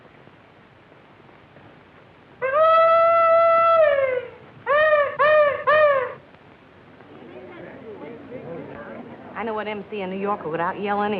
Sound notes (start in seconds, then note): 1.2 hollering; 6.8 chatter